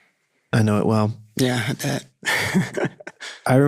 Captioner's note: chuckling